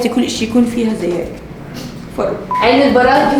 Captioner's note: sniffles